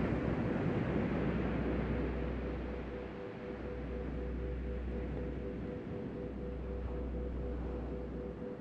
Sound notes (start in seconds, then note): 2.4 soft music; 2.4 waves breaking distantly